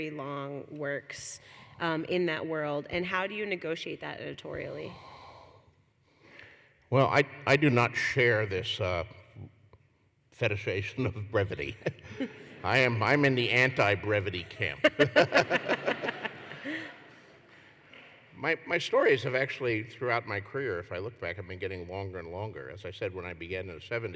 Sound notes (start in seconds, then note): 16.5 laughter